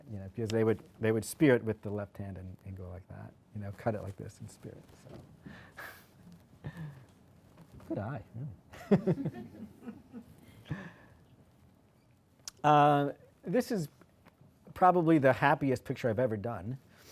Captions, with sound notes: Because they would spear it with the left hand and go like that. You know? Cut it like this and spear it, so. Good eye, yeah. (laughter from audience) This is probably the happiest picture I've ever done.